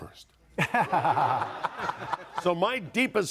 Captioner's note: audience laughing